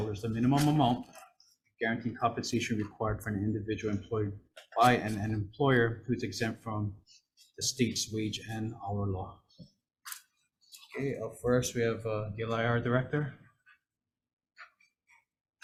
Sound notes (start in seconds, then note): none